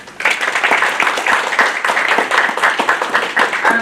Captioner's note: applause